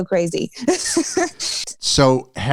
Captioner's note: laughter